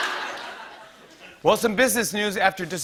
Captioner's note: laughter; normal voice